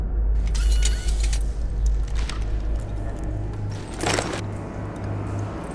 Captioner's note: robot whirring mechanically